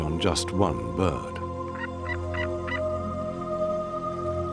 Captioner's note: eagle caws